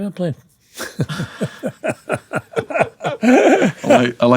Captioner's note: laughing